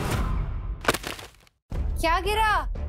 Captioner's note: thud on the ground